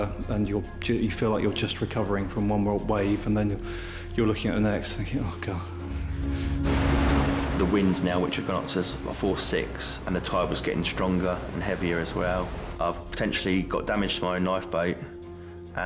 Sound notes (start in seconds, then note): 6.8 waves splashing